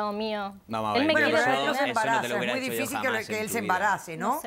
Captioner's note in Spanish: Hablan al unísono